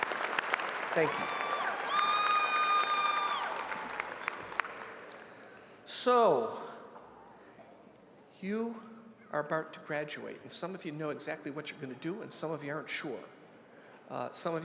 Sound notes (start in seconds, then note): 0.0 audience applauding; 2.1 crowd cheering